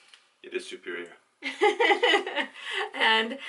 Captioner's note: laughter